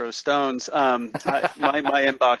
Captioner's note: laughs